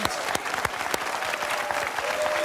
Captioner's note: cheers and applause